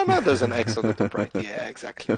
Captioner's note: laughs